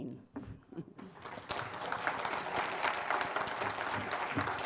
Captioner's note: applause